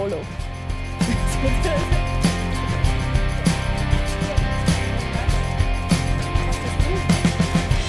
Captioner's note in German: lacht